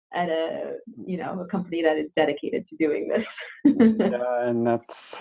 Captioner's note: laughs